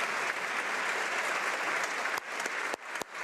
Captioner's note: applause